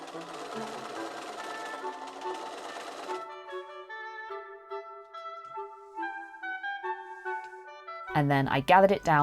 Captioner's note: machine whirring